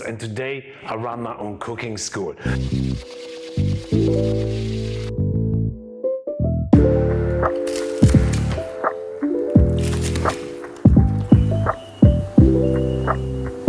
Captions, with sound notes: and today I run my own cooking school. (bright music) (pork rind crackles) (bright music continues)